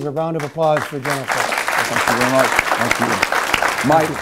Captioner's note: applause